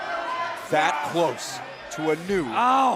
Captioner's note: crowd cheering